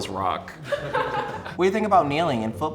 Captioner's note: laughing